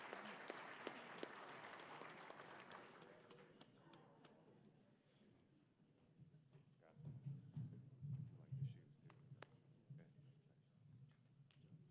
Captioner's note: applause